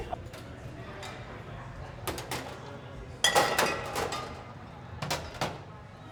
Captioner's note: glass clanking